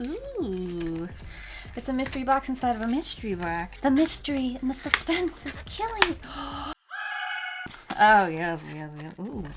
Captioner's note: gasps